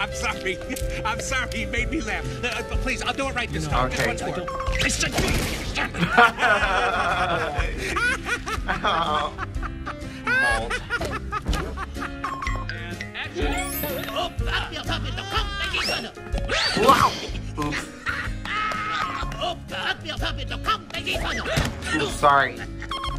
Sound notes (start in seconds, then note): 5.9 chuckles; 10.5 laughs; 14.6 speaking foreign language, grunting, laughing; 19.8 speaking foreign language, grunting